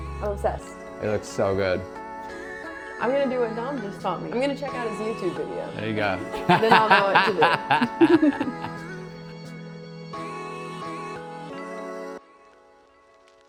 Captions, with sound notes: I'm obsessed. It looks so good. I'm gonna do what Dom just taught me. I'm gonna check out his YouTube video. There you go. Then I'll know what to do. (laughing)